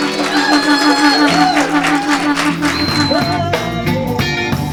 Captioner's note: audience cheering